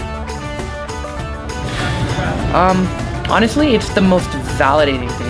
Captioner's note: exhales